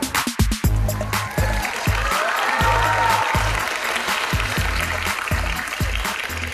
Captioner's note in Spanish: Aplaudir